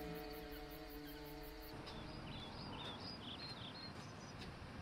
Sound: birds chirping

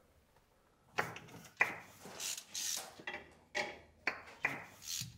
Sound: tapping and winding

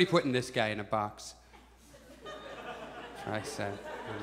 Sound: audience chuckles

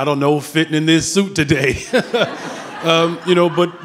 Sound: laughs

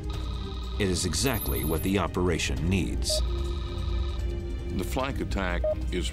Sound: none

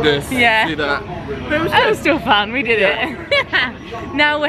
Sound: laughs

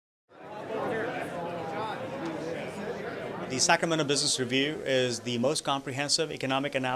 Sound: nat sound of crowd

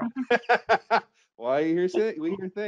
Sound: laughing

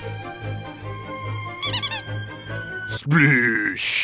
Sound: squeaky toy sound

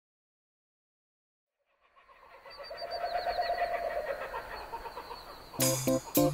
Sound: kookaburras laughing

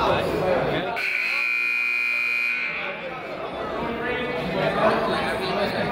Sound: buzzer honks

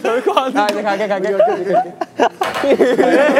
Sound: haha

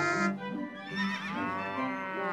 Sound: traffic honking; horse neighs, cow moos

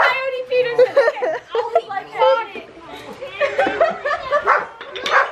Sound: laughing

